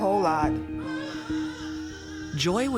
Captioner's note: baby crying